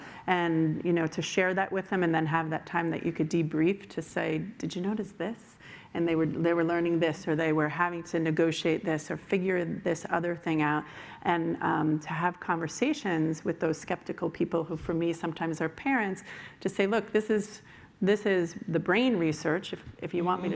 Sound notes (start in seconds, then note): none